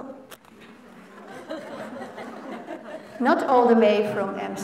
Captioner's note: laughter